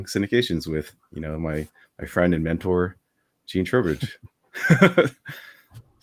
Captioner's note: laughs